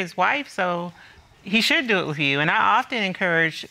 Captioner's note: none